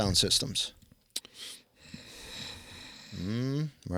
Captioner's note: inhales deeply